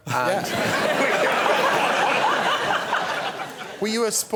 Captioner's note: laughter